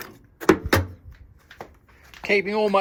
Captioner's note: parts clanking